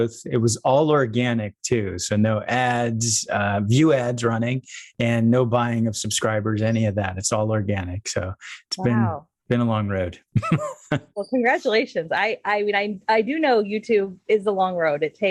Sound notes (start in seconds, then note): 10.3 laughs